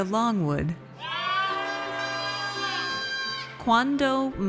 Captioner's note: audience cheers